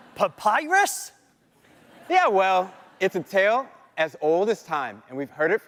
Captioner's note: laughter